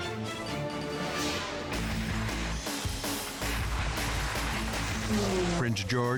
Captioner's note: intense rock music; air whooshes